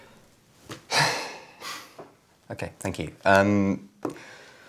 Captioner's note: deep sigh